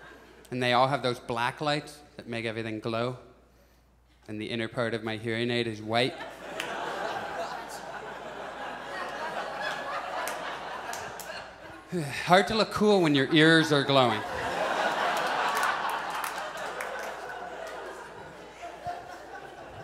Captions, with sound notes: And they all have those black lights that make everything glow, and the inner part of my hearing aid is white. [Audience laughs] Hard to look cool when your ears are glowing. [Audience laughs]